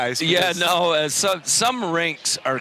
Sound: laughing

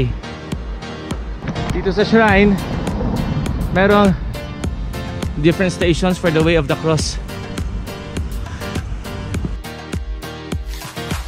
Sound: gasps

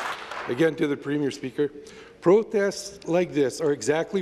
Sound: applause

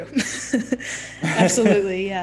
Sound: laughing

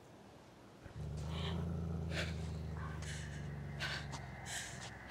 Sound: growling continues; laboured breathing

